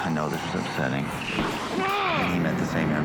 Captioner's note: grunting